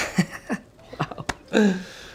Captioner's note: laughs